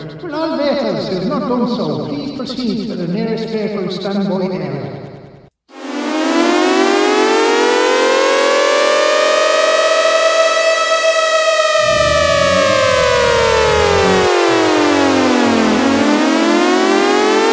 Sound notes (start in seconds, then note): 5.7 red alert sounds